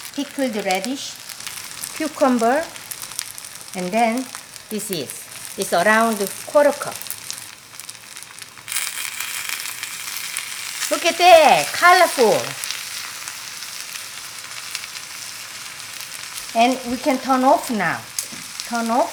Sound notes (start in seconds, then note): 7.9 food sizzling